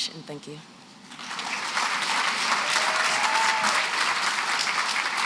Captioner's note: applause